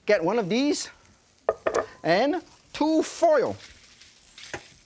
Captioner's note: dish settles